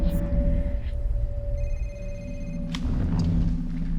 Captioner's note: phone rings